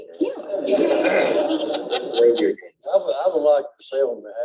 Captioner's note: laughter